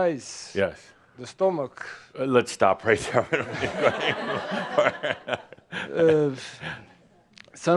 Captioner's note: laughter